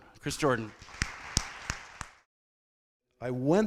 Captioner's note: crowd clapping